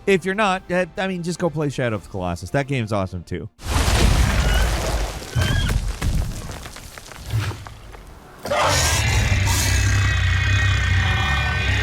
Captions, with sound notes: If you're not, I mean just go play "Shadow of Colossus", that game's awesome, too. (creature screaming)